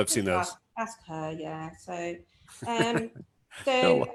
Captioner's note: laughs